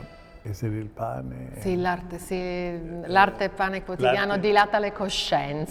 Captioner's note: speaking Italian